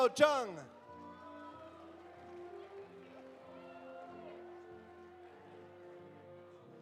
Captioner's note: audience applauding; audience cheering